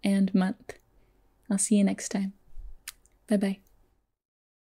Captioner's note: kisses